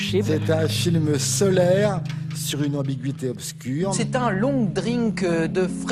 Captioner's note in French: voix de Jérôme Garcin